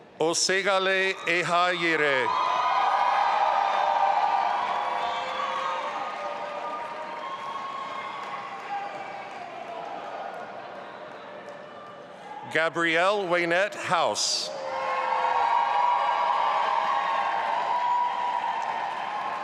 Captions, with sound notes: Oseghale Ihayere. (audience applauding and cheering) Gabrielle Waynette House. (audience applauding and cheering)